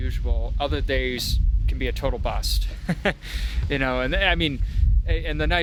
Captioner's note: laughs